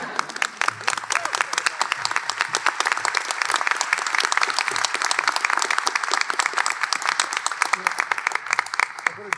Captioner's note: applause